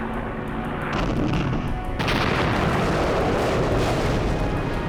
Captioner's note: bombs exploding